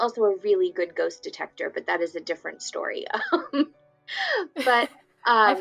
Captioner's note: laughs